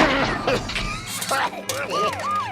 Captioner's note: coughs; sirens wail